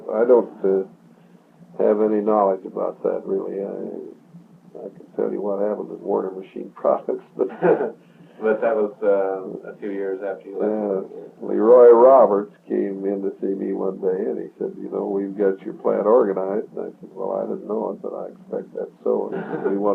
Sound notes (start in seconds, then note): 9.4 laughs; 19.1 laughs